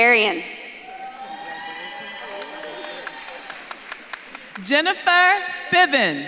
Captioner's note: audience claps and cheers